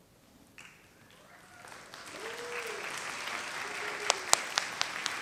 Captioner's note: audience applauds